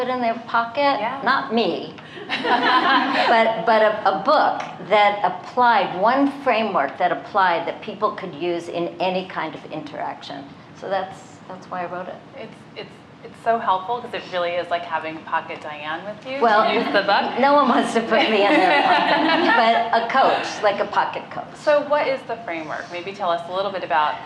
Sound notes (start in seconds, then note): 18.2 laughter